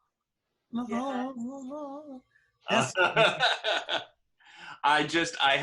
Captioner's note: humming